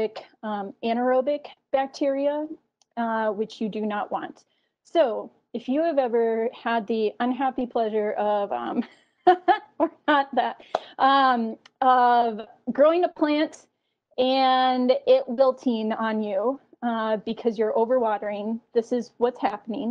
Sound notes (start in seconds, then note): 9.3 laughing